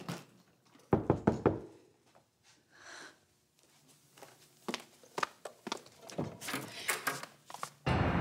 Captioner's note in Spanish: toques en la puerta